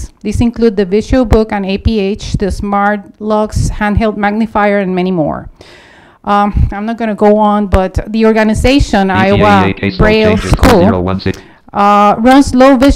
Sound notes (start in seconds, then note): 8.8 computer voice overlapping